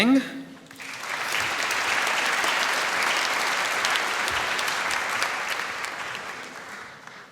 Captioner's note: applause